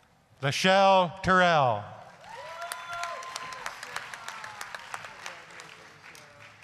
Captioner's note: applause, cheering